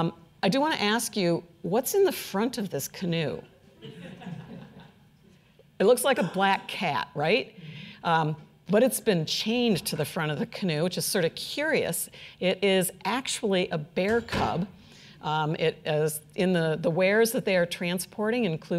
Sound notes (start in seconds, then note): 3.8 audience laughing